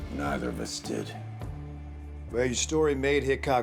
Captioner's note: scoffs